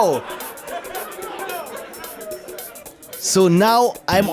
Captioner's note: laughter